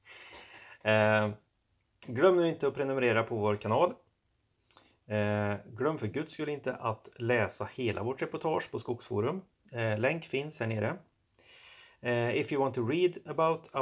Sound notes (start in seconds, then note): 8.8 in Swedish